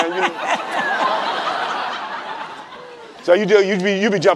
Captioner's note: laughing